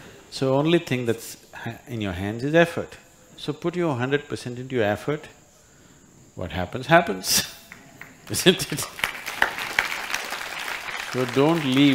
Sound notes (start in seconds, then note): 7.7 applause